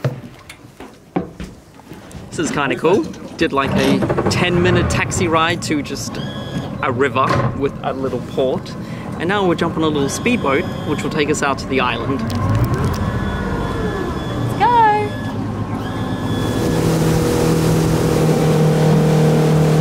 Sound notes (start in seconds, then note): 16.0 boat engine roaring